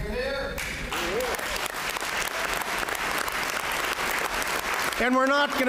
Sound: applause

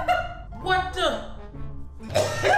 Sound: woman laughs; chokes

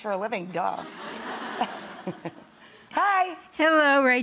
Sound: audience laughing

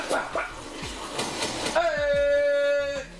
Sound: gun firing

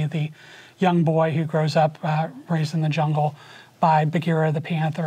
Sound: none

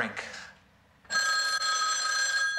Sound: phone ringing

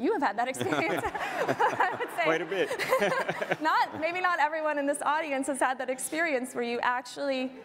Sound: audience laughter

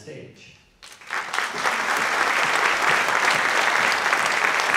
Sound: audience clapping

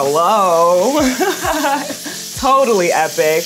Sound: laughs

